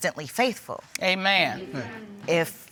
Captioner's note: crowd